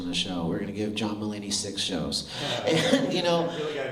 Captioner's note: laughter